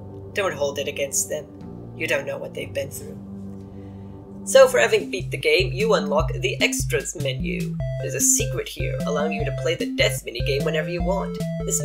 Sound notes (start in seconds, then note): none